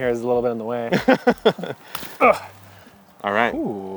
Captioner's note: chuckling